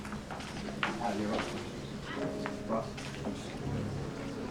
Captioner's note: crowd murmuring